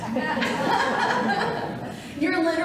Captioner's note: audience laughing